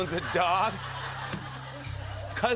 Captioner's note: laughter